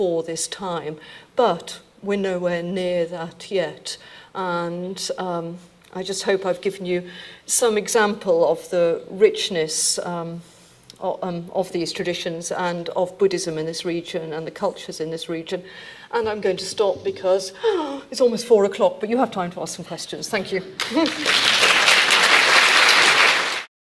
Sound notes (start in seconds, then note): 17.7 gasping; 20.8 audience applauding